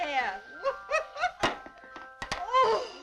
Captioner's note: laughing